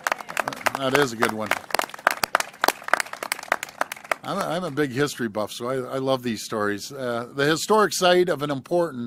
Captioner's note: applause